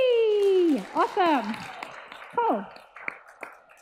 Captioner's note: audience applauds